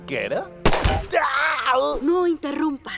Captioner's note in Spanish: Disparo